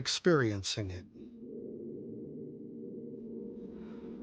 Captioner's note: wind blowing